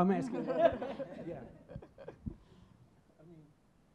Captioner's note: laughing